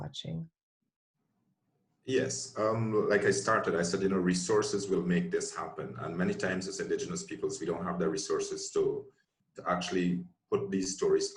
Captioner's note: chanting in background